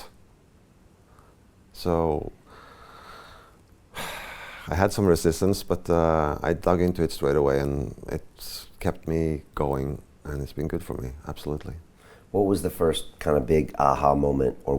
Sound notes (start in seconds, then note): 3.9 sighs